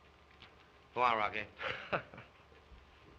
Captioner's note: laughs